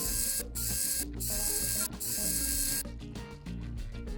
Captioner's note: Wow Stick Screw Noises